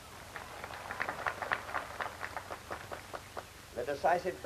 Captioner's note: applause